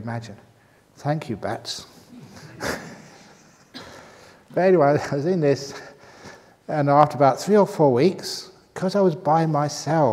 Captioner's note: laughs